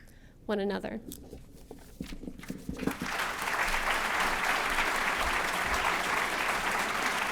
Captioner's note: applause